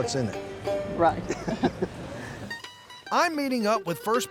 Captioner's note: both laugh